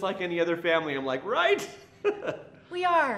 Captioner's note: chuckles